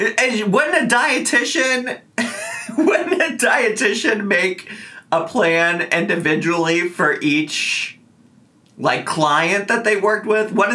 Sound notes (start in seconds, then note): 2.2 laughs